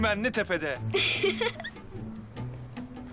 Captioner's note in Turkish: Gülüşme